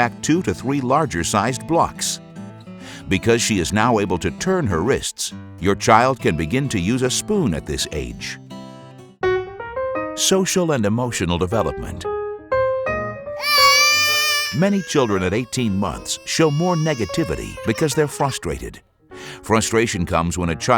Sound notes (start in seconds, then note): 13.4 baby crying